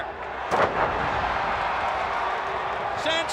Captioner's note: audience cheers